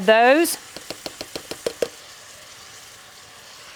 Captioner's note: dishes rattling